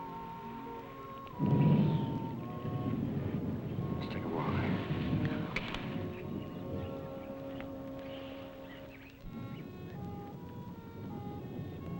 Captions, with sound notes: Let's take a walk. - Oh, okay. (gentle music) (birds chirping)